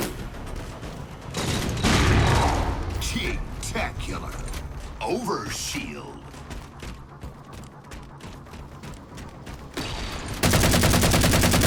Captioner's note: game play audio